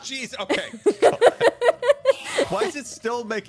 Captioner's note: laughs